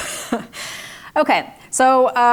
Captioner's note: chuckles